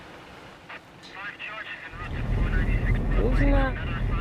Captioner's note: police radio